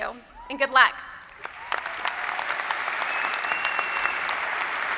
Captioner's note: applause